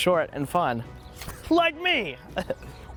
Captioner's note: shouts; laughs and makes sword noises